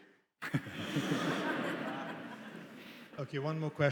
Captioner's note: attendees laughing